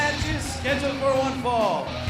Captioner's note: bell ringing